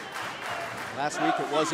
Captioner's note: fans chanting